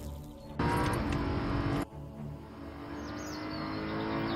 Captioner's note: car revs